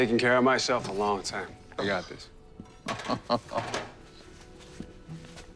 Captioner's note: chuckles